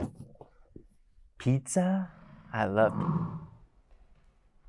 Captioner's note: animal noises